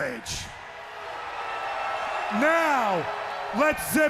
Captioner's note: crowd cheering